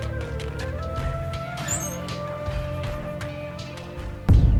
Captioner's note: drawer opening